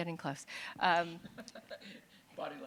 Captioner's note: laughter